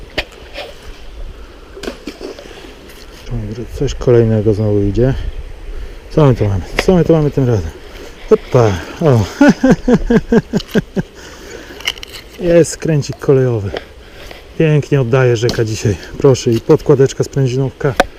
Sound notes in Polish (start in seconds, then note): 9.1 śmiech